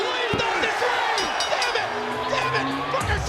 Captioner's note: bell dinging